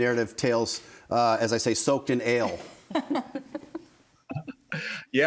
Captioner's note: laughs